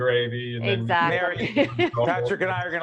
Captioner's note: laughing